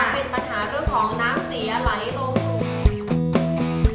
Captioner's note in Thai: เสียงผู้ประกาศข่าว